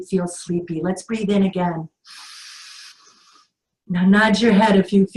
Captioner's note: inhales